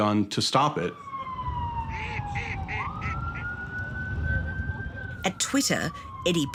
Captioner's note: siren wailing; ducks quacking